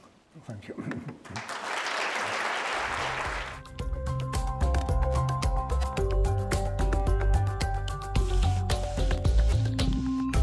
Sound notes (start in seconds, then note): 1.3 crowd applauding; 3.5 mid-tempo electronic music